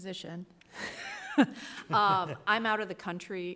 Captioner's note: laughs